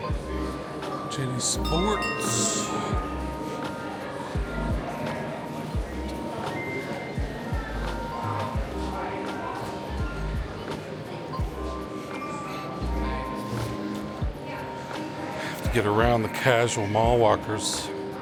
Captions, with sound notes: Jenny Sports. (bell ringing) (children chattering)